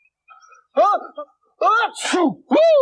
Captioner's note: The Magician Sneezes